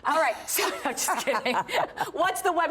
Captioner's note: laughter